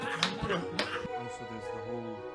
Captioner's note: laughs